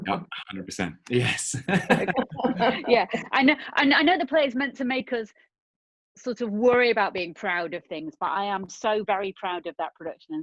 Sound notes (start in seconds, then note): 1.0 chuckling; 1.1 all laughing